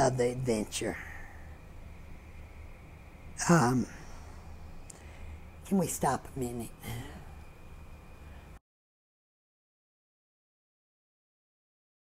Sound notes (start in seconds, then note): 3.0 tape pause